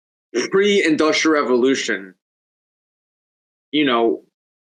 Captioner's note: laughs